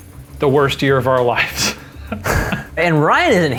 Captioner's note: both laugh